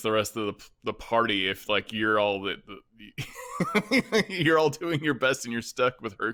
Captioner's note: laughs